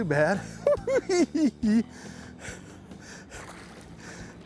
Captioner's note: chuckles